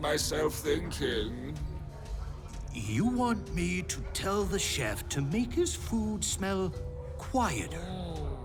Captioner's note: incredulous